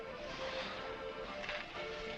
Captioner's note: sighing